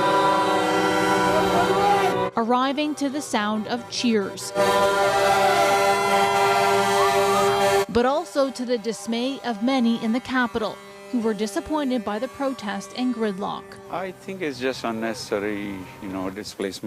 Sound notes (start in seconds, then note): 5.6 horn; 5.9 crowd Noise